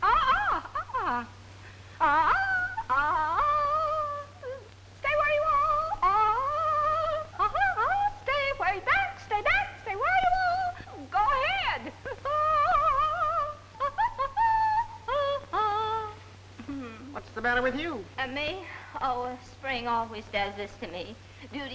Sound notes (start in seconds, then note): 0.0 Pandora humming; 2.2 vocalizing; 6.2 Pandora humming; 12.3 vocalizing